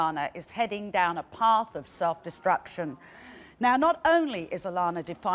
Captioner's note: none